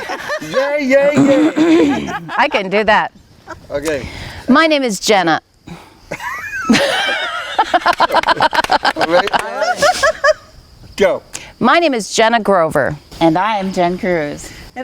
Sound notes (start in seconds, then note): 6.1 people laughing; 9.5 people clapping